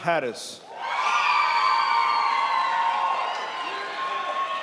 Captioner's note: crowd applauds